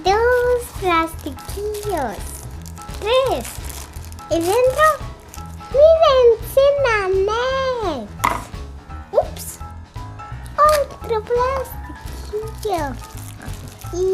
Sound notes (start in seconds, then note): 8.2 clang